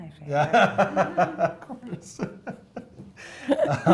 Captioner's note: laughing